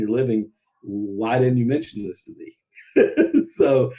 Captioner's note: laughs